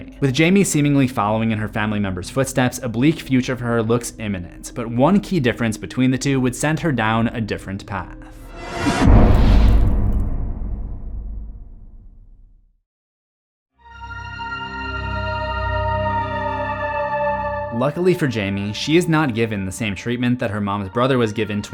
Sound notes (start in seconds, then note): 8.5 cinematic impact; 13.8 mysterious music